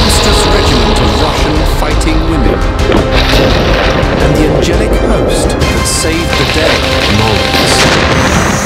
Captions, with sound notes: The monstrous regiment of Russian fighting women. (boots thudding) (suspenseful music) And the angelic host who'd saved the day at Mons.